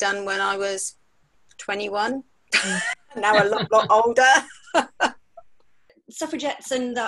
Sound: laughter

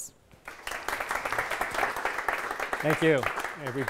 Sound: clapping

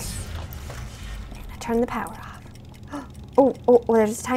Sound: gasps

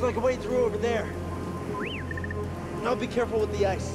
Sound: whistle, trill

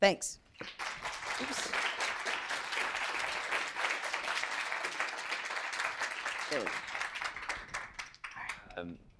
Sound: applause

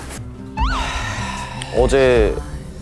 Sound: sigh

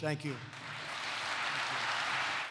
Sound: applause

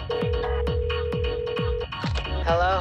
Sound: phone still ringing

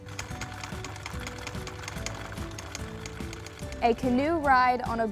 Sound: film reel clicking

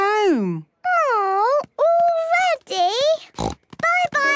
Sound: snort

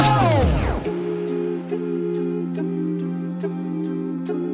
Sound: all humming

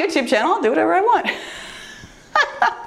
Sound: laughs

